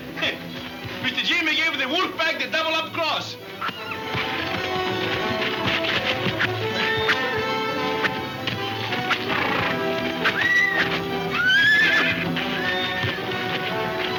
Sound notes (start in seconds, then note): 4.8 whip snapping; 9.7 horse neighing